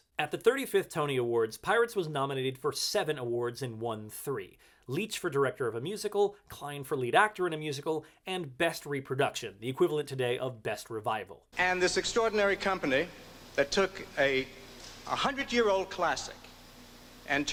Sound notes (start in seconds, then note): none